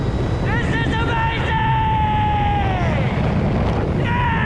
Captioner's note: wind turbulence